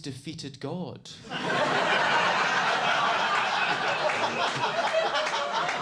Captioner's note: audience laughing